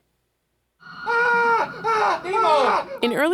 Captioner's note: yelling